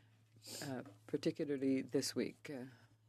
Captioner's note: speaking French